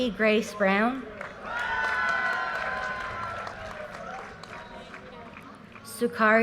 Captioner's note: audience cheers and applause